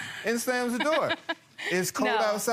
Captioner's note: laughs